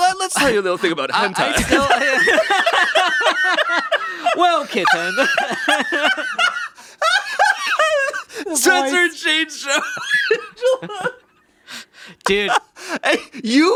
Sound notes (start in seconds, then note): 0.0 chuckles; 2.0 laughing; 5.6 laughing